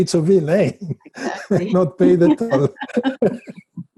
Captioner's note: chuckles